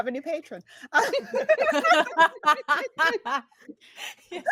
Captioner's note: laughs